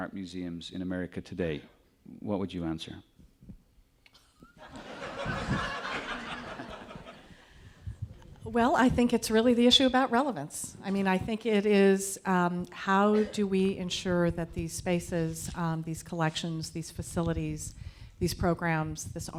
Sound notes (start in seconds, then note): 4.6 audience laughing